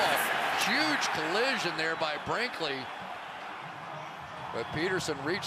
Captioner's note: cheering